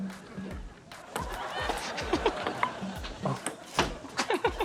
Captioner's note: laughter; laughs